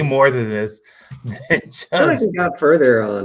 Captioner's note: laughs